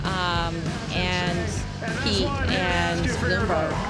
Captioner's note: cheers and applause